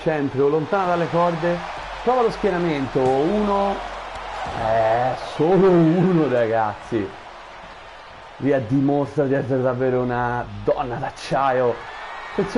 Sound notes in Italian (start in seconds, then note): 4.2 Applauso